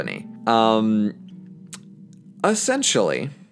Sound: L i p s m a c k

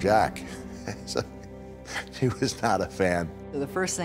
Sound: laughs

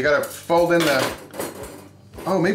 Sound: metal clanking

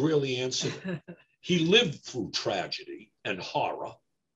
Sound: laughs

